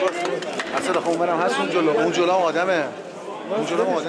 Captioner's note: Arabic spoken language